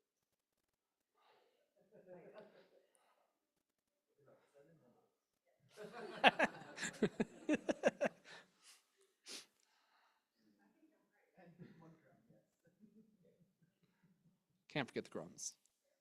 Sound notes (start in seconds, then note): 5.8 chuckles